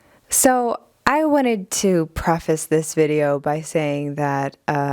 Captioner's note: none